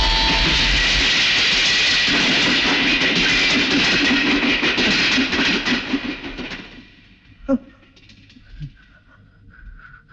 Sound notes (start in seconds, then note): 0.0 train horn blares; 3.0 train rumbling